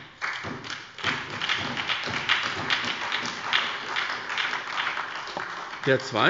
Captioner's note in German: Beifall bei der SPD